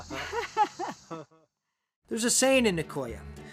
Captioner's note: laughter